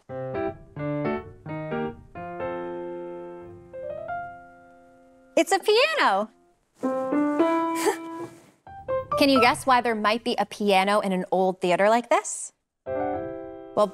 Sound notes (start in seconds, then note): 0.0 light music continues; 6.9 piano sounding; 7.7 laughing; 12.9 light music continues